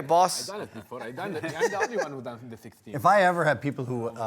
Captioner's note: laughter